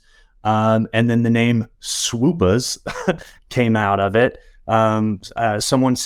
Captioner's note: laugh